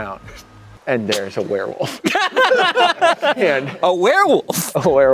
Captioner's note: laughing